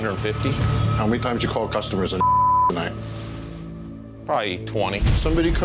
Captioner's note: beep